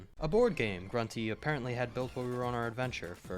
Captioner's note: none